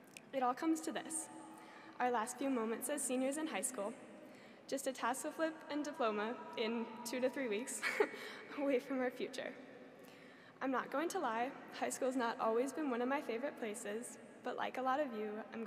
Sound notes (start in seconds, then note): 8.2 chuckles